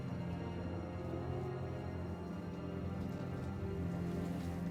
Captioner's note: wind whistling